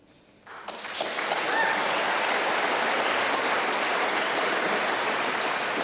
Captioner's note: applause